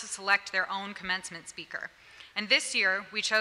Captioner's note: none